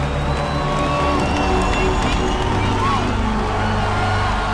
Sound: low intense music continues; audience cheering happily

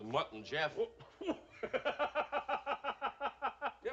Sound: laughs

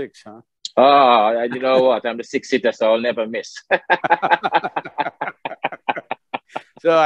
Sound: both laugh

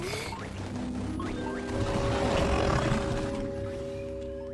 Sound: static crackling

